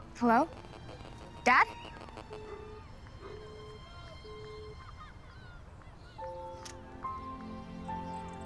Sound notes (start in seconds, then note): 2.1 call drops